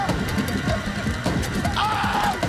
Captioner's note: screaming